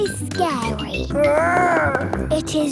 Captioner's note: growls